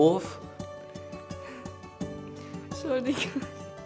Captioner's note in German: lachen